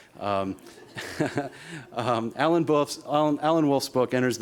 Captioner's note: laughter